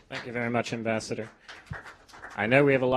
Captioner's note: applause